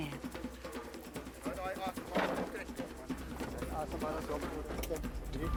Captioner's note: speaking foreign language; dramatic music